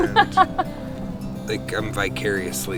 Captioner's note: laughing